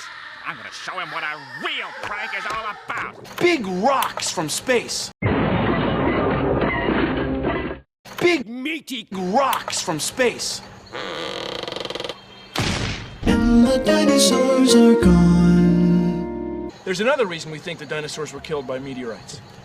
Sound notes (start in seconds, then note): 5.2 crash; 13.4 jingle